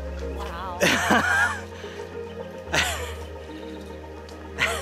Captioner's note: nervous laughter